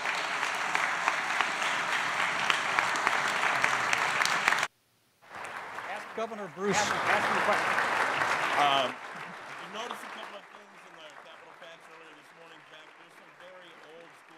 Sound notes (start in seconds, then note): 1.9 applause